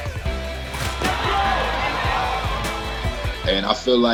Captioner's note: rap music; crowd cheering